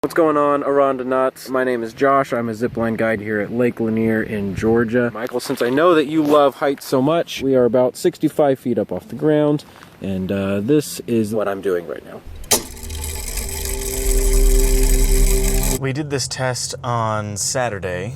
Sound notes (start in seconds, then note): 12.2 mechanism whirring